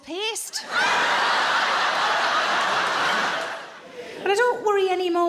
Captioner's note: audience laughs